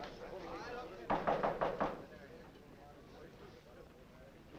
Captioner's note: knocking on door